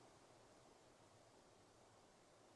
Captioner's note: none